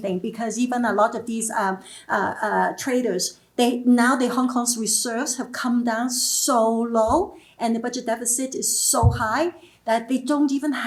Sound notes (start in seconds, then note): none